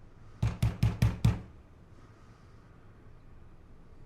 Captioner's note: loud knocking